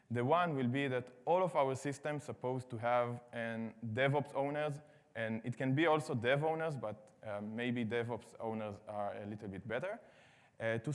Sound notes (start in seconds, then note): none